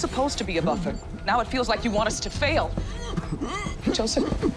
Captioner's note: gasping